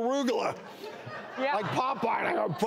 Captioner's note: audience laughs